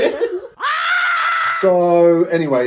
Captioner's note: liver screaming